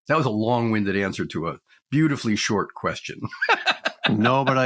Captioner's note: laughs